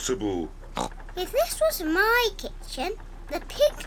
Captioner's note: oinks